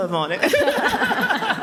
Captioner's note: laughter